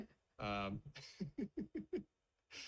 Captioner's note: laughs